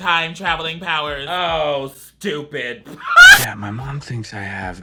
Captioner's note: laughs